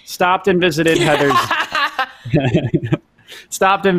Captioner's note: laughing